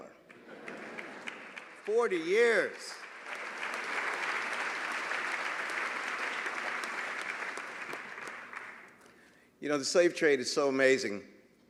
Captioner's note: applause